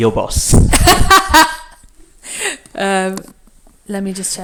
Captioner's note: laughs